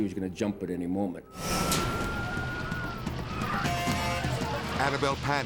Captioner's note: dramatic whoosh; sirens blaring